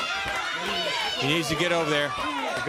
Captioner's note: crowd cheering